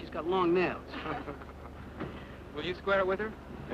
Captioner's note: group chuckling